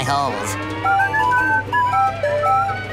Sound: whistling

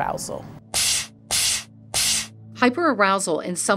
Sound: machine blasting air

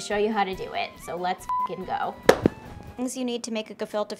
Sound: beep

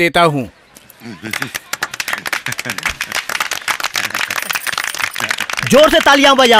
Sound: applause

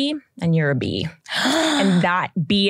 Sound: gasps

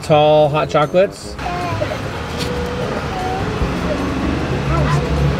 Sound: kids chattering

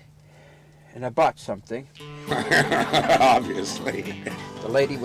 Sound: laughing

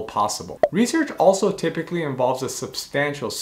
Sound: bubble popping

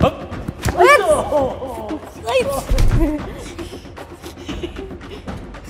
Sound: fighting sounds

